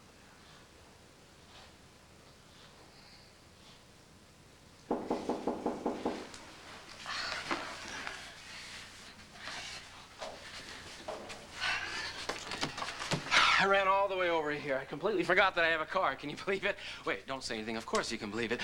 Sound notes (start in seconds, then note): 7.0 knock on door